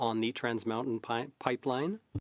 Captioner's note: speaking French